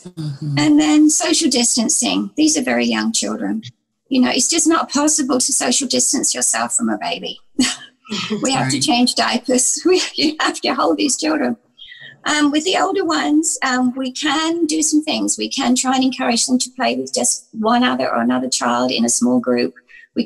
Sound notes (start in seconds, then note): 8.0 laughs; 8.1 chuckles